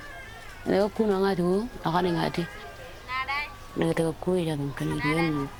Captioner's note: baby crying; speaking in foreign language